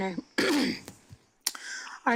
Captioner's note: clears throat